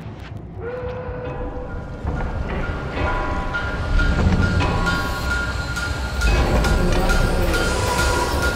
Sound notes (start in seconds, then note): 1.0 factory machinery